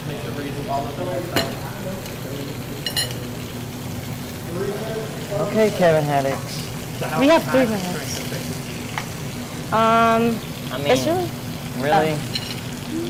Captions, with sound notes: - I need to braise all of them myself. (clink) - Three minutes to stop. - Okay Kevin Haddocks. - We have three minutes. (sizzling) - I mean-- - This really-- - Really. - Oh.